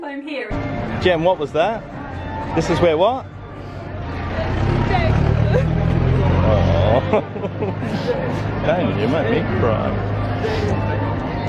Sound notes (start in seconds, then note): 6.4 sobbing noises from gem